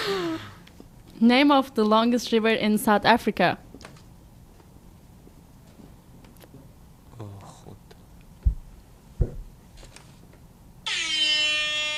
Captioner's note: horn Sound